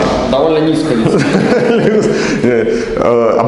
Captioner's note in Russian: смех